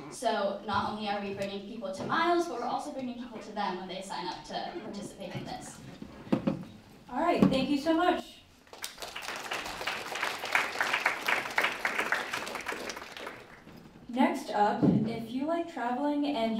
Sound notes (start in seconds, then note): 8.6 applause